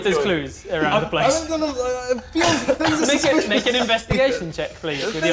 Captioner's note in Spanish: Más lloriqueo incoherente